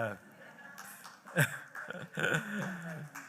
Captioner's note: chuckles